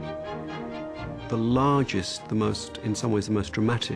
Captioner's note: voiceover